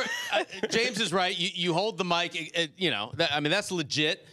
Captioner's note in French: laughter